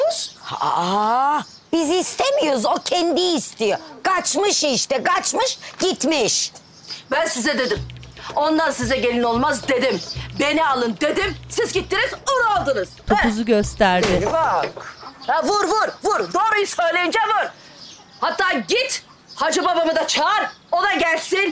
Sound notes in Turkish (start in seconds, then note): 13.7 Vurma sesi